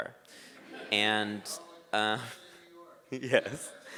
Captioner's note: crowd laughs